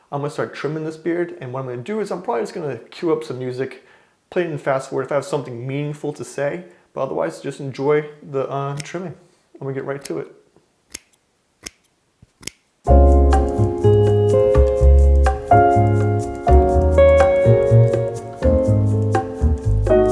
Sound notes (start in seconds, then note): 10.9 clipping sounds; 12.8 gentle music